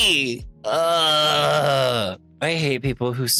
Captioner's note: groans